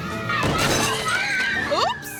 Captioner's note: table cracks